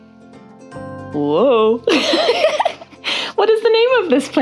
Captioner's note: giggles